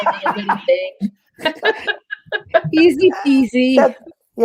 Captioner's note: laughter